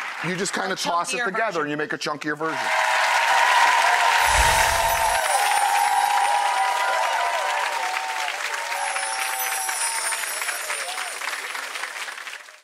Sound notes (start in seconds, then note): 2.6 audience applauds; 4.3 twinkles